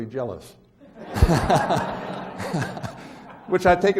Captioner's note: laughs